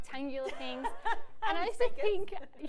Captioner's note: laughs